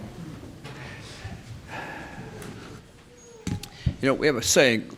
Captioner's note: sighs